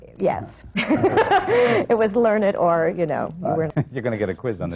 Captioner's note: laughs